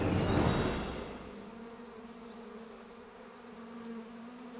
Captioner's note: wasps buzzing